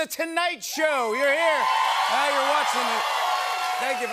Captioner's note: cheers and applause